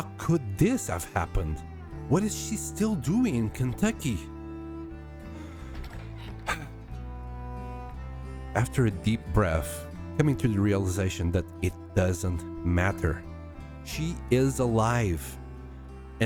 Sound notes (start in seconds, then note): 6.2 sigh